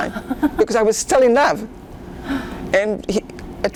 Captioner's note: laughing